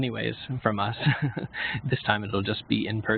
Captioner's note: laughs